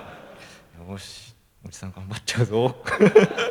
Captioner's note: laugh